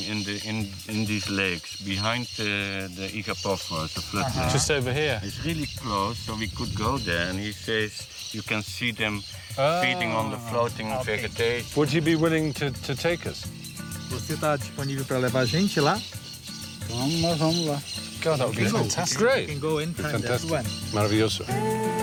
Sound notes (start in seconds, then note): 14.6 speaking in foreign language